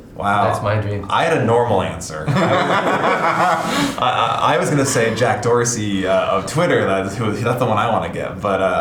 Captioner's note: laughing